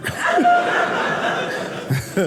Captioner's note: audience laughing